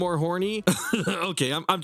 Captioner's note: laughs